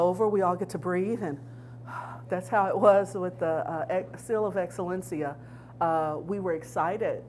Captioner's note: inhales